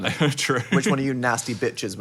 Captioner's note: laughs